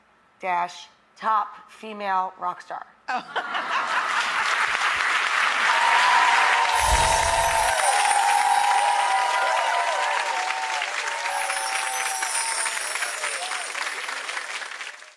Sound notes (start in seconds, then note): 3.4 audience laughing and clapping; 6.7 wind chimes chiming